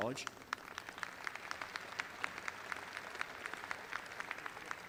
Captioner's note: crowd applauding